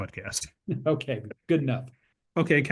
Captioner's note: laugh